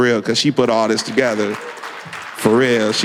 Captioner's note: applause